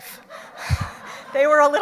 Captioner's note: audience laughs